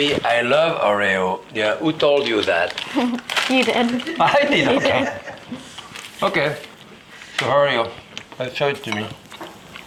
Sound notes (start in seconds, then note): 4.4 both chuckling